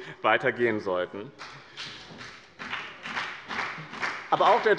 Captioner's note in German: Beifall bei dem BÜNDNIS 90/DIE GRÜNEN und der CDU